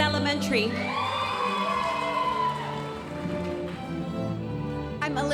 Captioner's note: audience applauding